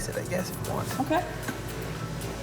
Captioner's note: knife clattering